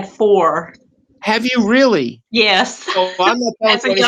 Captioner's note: laughs